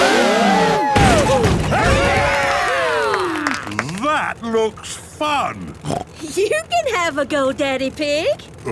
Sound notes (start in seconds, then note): 0.0 crowd; 2.3 applause